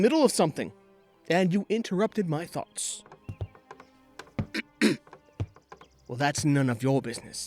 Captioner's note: clears throat